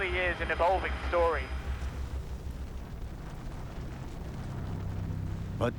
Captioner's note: rumbling and crackling